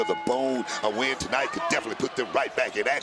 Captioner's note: bell rings